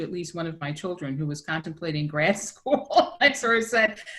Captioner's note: laughs